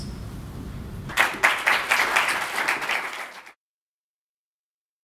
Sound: applause

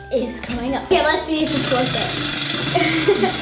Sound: laughs

